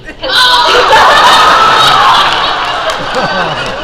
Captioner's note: laughing